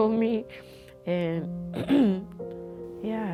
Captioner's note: clears throat